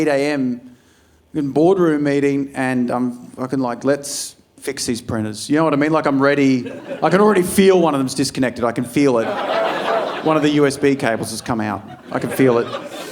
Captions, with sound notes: I'm sitting in the 8 a.m. in boardroom meeting and I'm fucking like, "Let's fix these printers." You know what I mean? Like I'm ready. I can already feel one of them's disconnected. I can feel it. (audience laughing) One of the USB cables has come out. I can feel it.